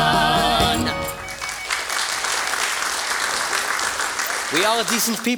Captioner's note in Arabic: توقف الموسيقى. تصفيق